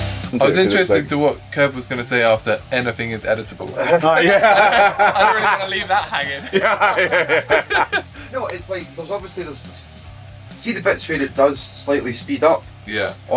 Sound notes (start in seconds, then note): 3.6 laughter